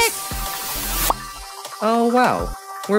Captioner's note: popping sound